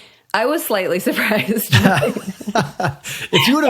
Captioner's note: both laughing